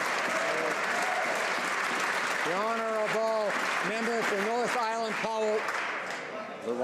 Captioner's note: some Applause